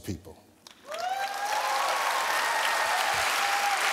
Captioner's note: applause